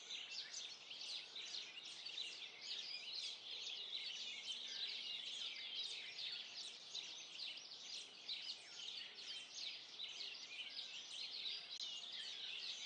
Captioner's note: birdsong